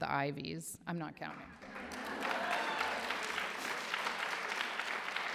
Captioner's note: applause